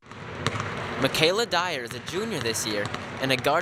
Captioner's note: voiceover